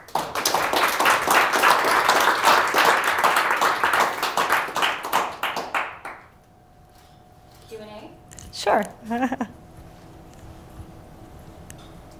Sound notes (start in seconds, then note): 0.0 applause; 9.0 laugh